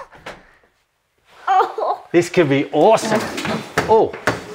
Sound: excited noises

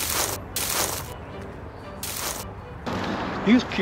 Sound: leaves crunching

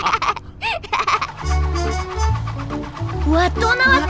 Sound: both laugh; air whooshing

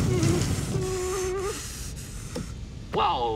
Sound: whimpering; heavy breathing

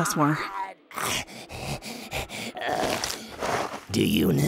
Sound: Cell continues to cry out in excruciating pain; Cell panting in pain

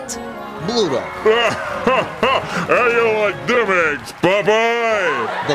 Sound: laughs

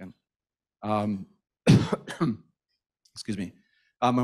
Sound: coughs

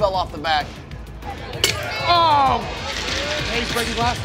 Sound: glass cracking

